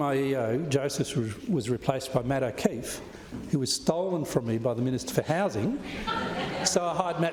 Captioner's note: laughter